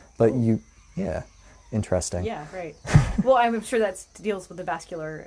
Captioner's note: questioning noise